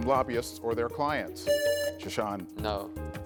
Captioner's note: buzzer rings